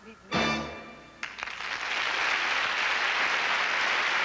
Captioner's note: applause